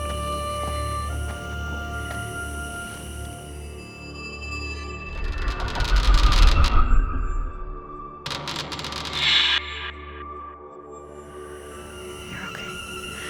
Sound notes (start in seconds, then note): 5.0 creaking